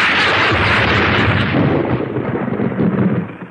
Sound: SFX: thunder

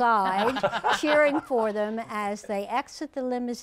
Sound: laughter

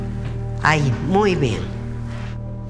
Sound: speaks foreign language

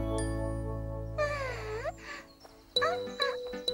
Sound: sighs

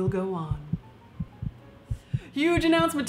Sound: heart beating

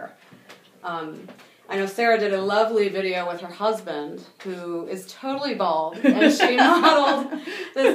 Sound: laughing

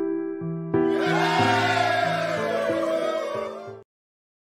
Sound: cheering

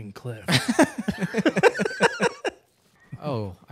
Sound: both laughing

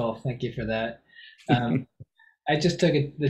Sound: laughs

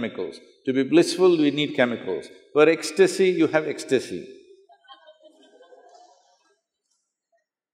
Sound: laughter

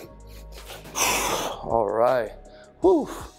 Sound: exhales

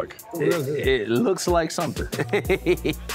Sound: laughs

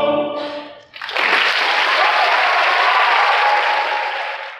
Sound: applause

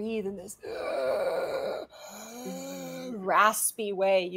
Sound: wheezing

